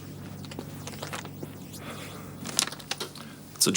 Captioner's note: Dave sighs